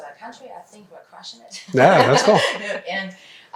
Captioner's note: laughs